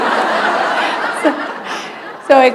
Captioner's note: laughter